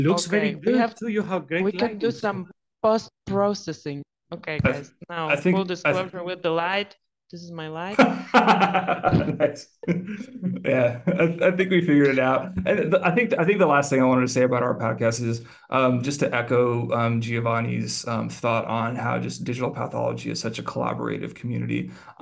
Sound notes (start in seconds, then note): 7.9 hosts laughing